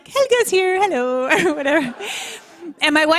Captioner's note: laughter